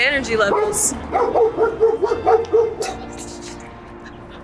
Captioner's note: Vilk barks